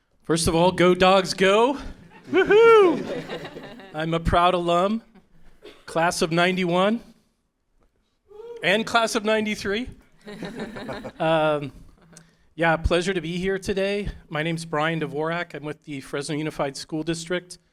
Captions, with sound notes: First of all, go Dogs, go! Woo-hoo. [Laughter from audience]. I'm a proud alum, Class of '91. >> Woo! >> And class of '93. [Chuckles]. Pleasure to be here today. My name's Brian Dvorak. I'm with the Fresno Unified School District.